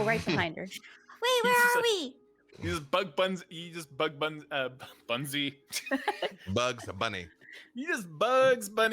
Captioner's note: laughs